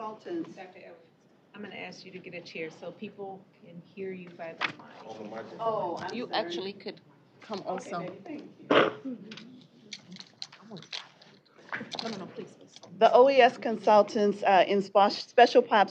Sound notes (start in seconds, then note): 7.9 indistinct chatter